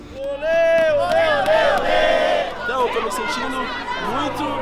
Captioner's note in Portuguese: torcida comemorando